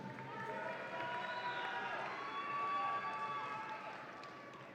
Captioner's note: audience applauds and cheers